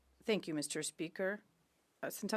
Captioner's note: speaking French